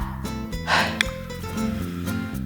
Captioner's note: sigh